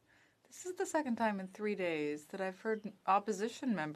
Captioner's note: speaking French